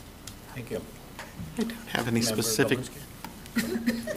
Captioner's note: laughter